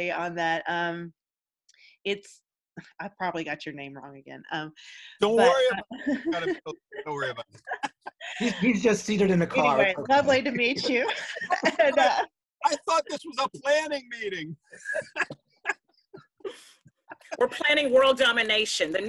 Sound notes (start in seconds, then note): 15.7 laughs